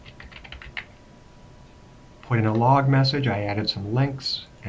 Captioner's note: typing